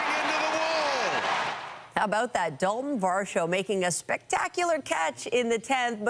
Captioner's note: applause